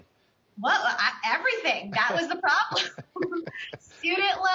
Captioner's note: laughs